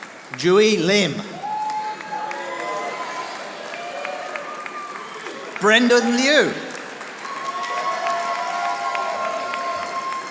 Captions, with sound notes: Julie Lim. (audience applauding) Brendan Liu. (audience applauding)